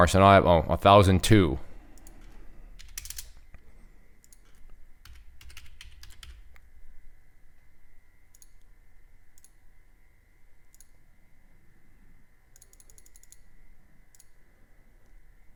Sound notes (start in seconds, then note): 3.1 typing